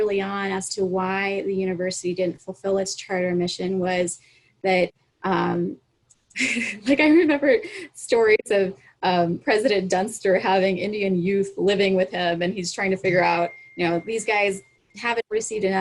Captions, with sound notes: on as to why the university didn't fulfill its charter mission was that, (chuckles) like I remember stories of President Dunster having Indian youth living with him and he is trying to figure out these guys haven't received